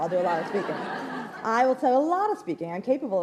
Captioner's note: laughs